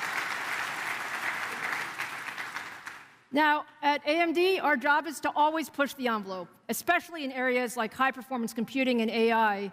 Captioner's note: applause